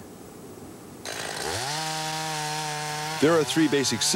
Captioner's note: chainsaw buzzing